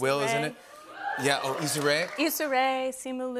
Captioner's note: cheering